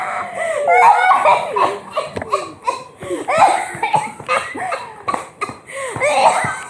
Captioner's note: Atropos coughs